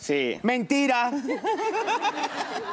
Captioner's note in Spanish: Risas